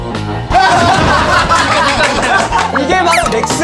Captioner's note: real laughter